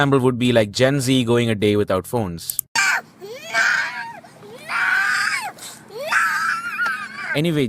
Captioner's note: video of girl screaming